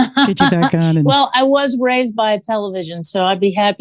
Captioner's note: laughs